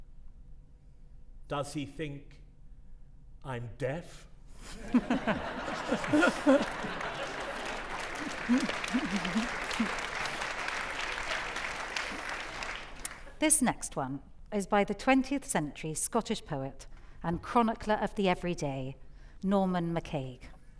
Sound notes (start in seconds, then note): 4.8 audience laughing; 6.8 audience applauding